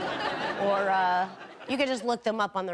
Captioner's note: audience laughing